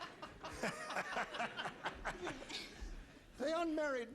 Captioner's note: laughing